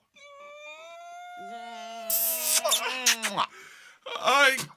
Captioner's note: sound of loud kiss